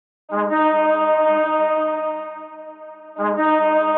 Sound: horns blaring

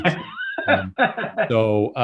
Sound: laughs

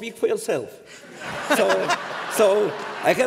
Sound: laughter

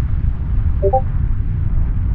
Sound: Discord notification

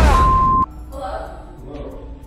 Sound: digital beeping

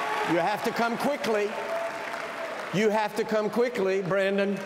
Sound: cheers and applause

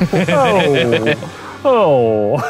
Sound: laughing

